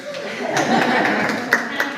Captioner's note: audience laughs